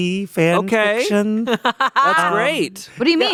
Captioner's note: laughing